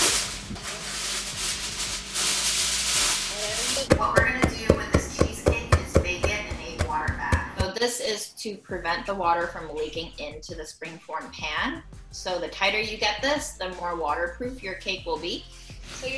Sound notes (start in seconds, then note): 0.0 foil rustling; 3.8 spoon pounding